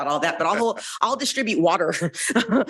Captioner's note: chuckles